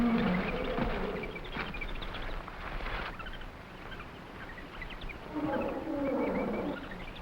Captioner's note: animals chattering; gorilla grunting